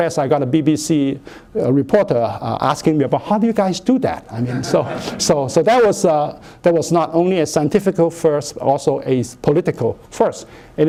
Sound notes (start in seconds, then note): 4.3 laughter